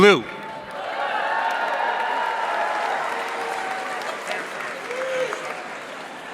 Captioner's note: audience cheering and applauding